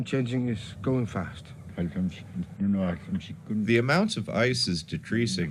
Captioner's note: foreign language 00:09:58